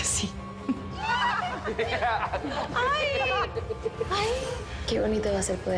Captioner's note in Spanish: Risas y exclamaciones